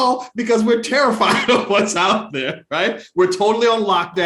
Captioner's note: laughs